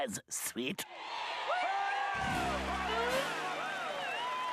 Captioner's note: audience cheering